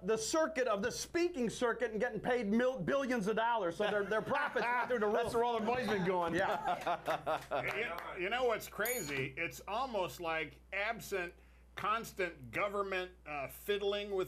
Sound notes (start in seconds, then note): 7.9 scattered Applause